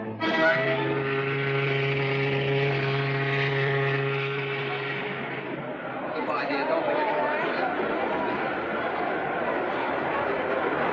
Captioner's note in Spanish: Sirenas de barcos, sonidos de multitud